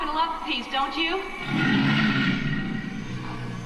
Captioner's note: another loud roar